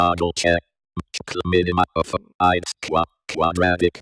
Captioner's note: NVDA speaking